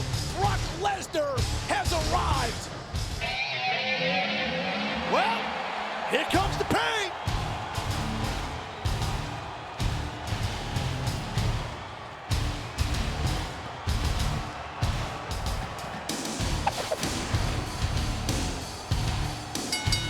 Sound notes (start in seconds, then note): 3.4 rock music; 8.0 audience cheering and booing; 16.8 logo whooshes; 19.6 bell rings